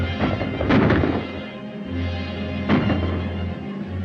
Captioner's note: guns firing